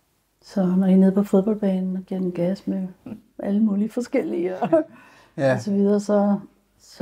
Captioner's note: chuckles